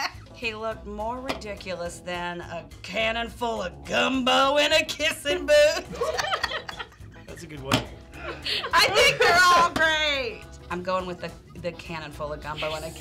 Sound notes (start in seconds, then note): 0.0 laughing; 5.9 laughing